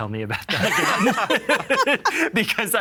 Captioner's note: all laughing